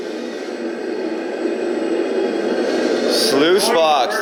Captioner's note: truck engine